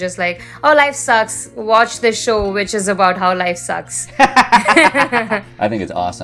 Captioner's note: laughter